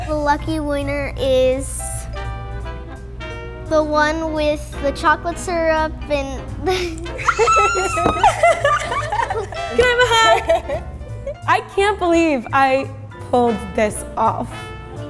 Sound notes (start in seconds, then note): 6.7 laughing; 7.0 squealing